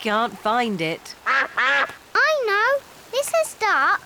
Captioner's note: quacking